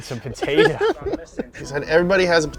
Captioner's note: laughing